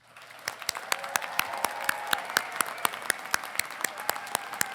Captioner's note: congregation applauding